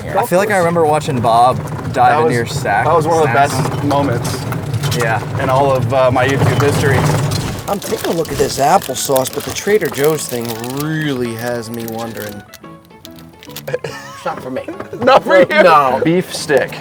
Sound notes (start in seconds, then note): 13.5 laughs